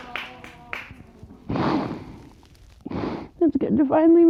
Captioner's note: both sobbing